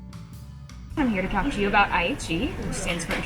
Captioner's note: tranquil music; people chattering